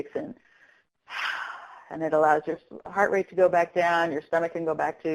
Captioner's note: exhales